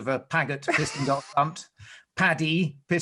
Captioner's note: laughs